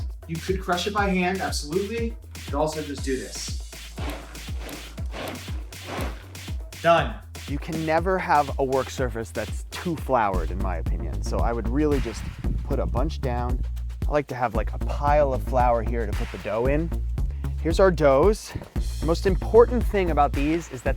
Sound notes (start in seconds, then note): 3.8 blender pulsing